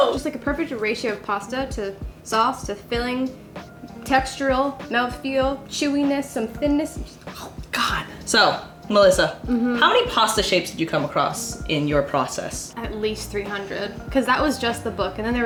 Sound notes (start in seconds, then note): 7.3 chomps; 9.4 humming